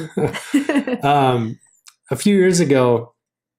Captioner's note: laughing